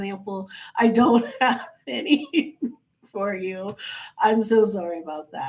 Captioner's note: laughing